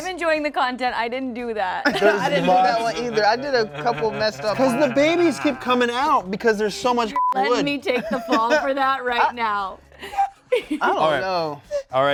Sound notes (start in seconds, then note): 7.1 beep